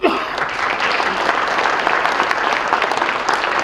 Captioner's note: loud applause